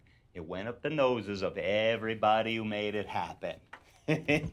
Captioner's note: chuckles